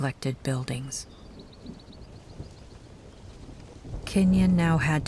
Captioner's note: birds chirping